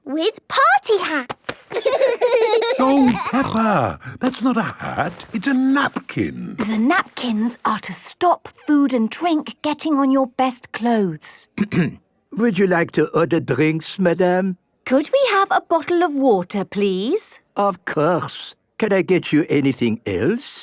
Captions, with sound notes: - With party hats! - (laughing) - No, Peppa! That's not a hat! It's a napkin! - The napkins are to stop food and drink getting on your best clothes. - (clears throat) Would you like to order drinks, Madam? - Could we have a bottle of water, please? - Of course! Can I get you anything else?